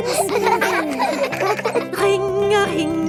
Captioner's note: giggling